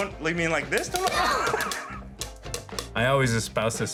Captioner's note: laughter